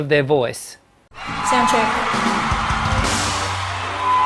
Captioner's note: applause